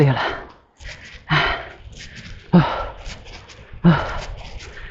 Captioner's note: exhausted groan